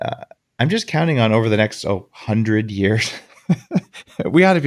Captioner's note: laughs